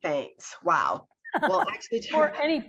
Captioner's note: laughs